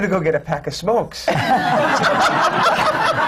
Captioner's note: laughter